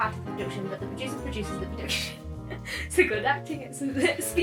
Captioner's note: laughing